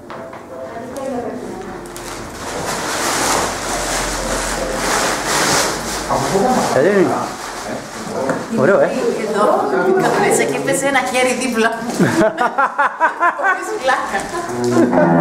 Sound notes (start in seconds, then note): 11.8 laughs